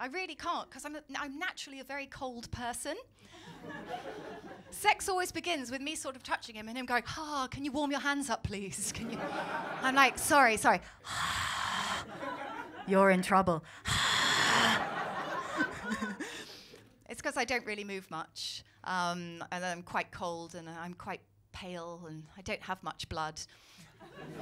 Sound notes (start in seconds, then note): 3.4 laughter; 10.8 breathes on hands; 14.2 breathes on hands; 16.0 laughter